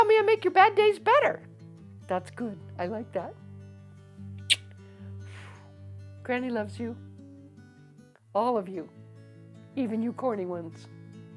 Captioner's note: kiss sound